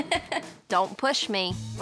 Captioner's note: laughs